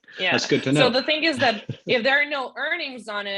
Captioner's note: laughs